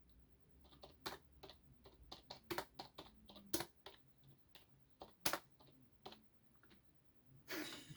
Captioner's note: keyboard typing sound; chuckles